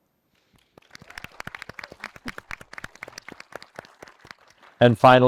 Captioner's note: attendees cheering and applauding